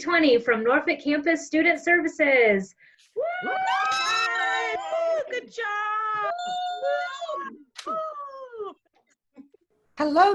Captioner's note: cheering